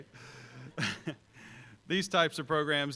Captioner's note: chuckles